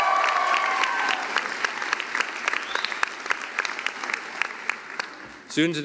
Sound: cheering and applause

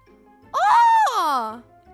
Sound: scream

